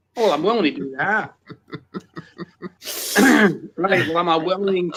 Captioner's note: laughs